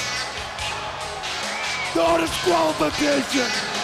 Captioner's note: crowd chatter